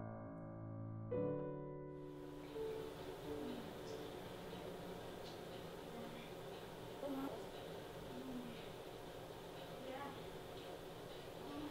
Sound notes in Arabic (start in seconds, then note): 5.1 أنين بعيد; 5.1 صرير السرير